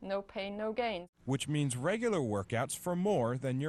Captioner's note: voiceover